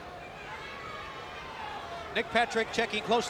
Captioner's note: crowd cheering